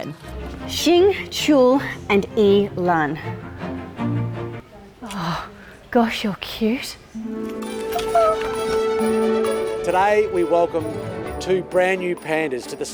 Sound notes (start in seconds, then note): 7.3 squeals softly